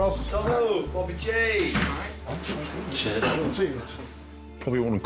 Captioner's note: door bangs